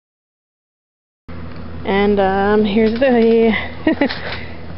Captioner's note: laughs